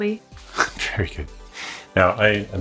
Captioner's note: laughs